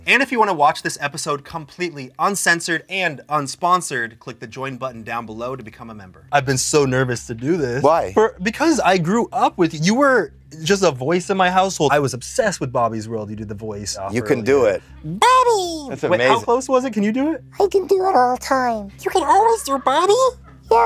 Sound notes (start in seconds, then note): 15.2 high-pitched cartoon voice; 17.7 same cartoon voice